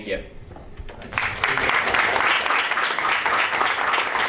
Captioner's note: applause